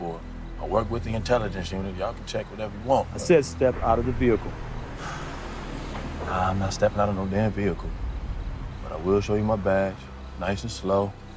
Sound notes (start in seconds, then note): 4.9 sighs